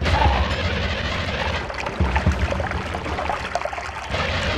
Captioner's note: water bubbling